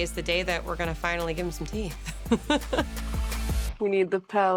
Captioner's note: chuckles